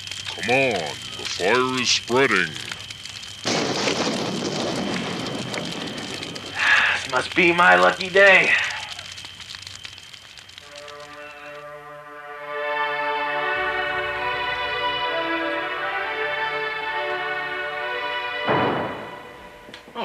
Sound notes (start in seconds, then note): 3.4 thunder; 6.6 sigh